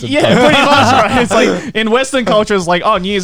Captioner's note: laughing